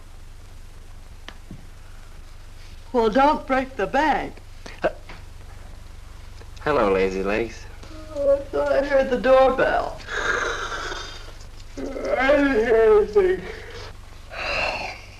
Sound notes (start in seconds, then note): 8.6 kitty Yawning; 10.2 Johnny Yawning